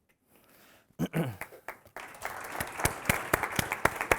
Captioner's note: audience applauding